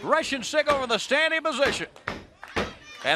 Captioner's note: crowd chatter